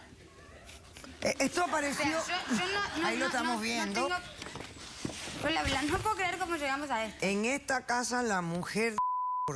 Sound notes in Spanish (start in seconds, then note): 1.5 risas